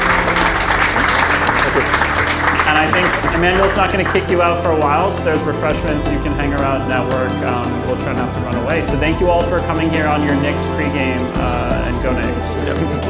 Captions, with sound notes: (Applause) And I think Emmanuel's not going to kick you out for a while. So there's refreshments. You can hang around. Network will try not to run away. So thank you all for coming here on your next pregame. And go, Nicks.